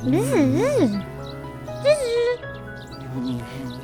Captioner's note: bee buzzes